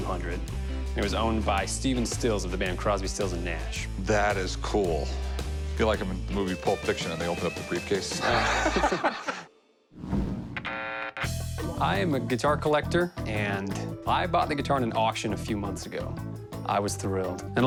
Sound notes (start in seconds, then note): 8.2 laughs